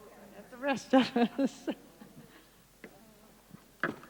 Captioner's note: laughing